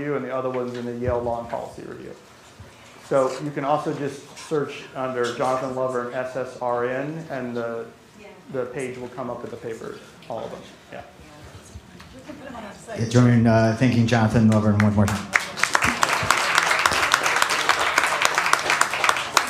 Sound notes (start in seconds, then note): 14.4 applause